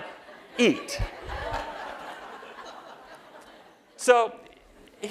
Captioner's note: laughter